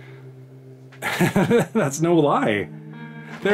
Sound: laughter

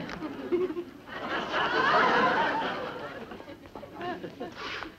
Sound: audience laughs

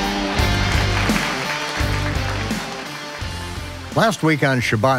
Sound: audience applauding

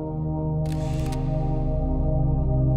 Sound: camera shutter clicking

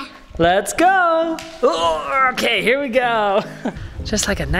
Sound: grunts

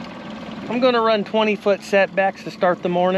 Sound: boat engine idling

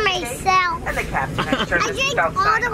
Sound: laughing

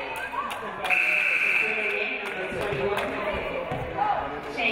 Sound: referee blows whistle; game buzzer buzzes

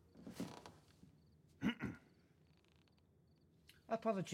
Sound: clears throat

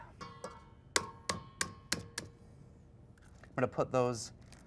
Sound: egg cracking

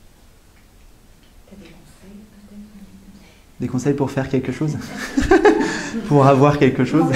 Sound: laughs

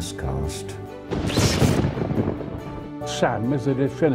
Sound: thunder and lighting

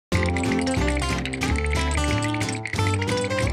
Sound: teeth chattering

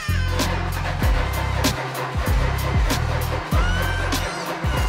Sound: ignition stuttering

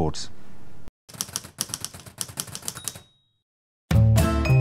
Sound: typewriter sounds

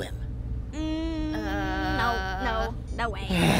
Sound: low murmurs of no

